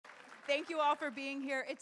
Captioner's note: audience applauding